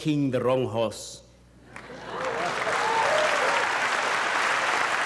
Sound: audience applauding

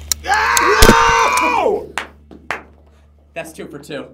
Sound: shouting

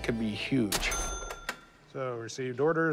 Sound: cash register chime

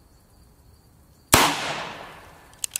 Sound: gun fires

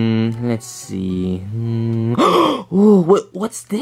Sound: gasps

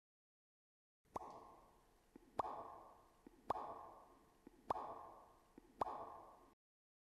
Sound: sound of waterdrops

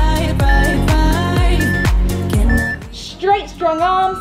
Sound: timer beeping

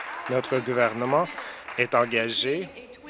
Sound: applause

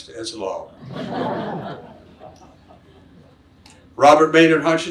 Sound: audience laughs

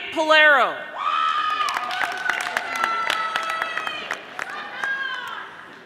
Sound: audience applauding

